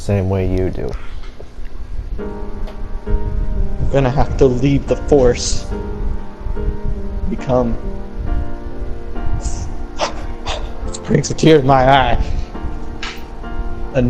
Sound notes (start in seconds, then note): 9.9 cries